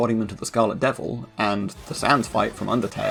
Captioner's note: death sound